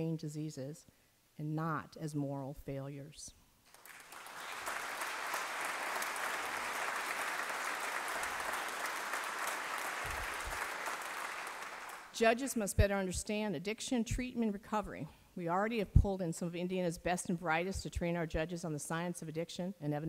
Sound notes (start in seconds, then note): 3.6 applause